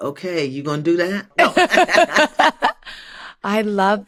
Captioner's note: laughter